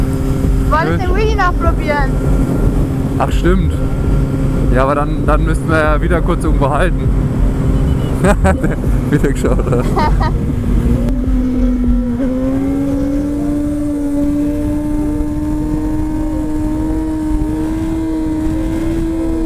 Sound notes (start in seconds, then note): 7.5 honking at us